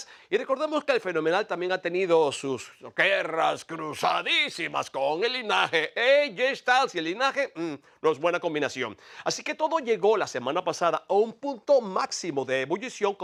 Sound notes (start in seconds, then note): none